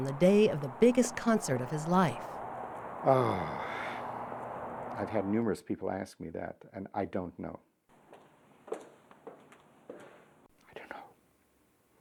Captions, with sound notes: What will unfold on the day of the biggest concert of his life? Oh, (sighs) I've had numerous people ask me that and I don't know.